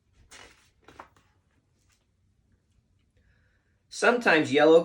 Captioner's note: page turning